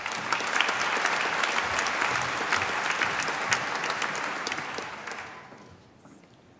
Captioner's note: applause